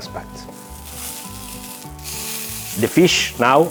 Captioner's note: sizzling sound